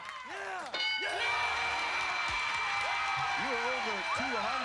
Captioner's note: cheers and applause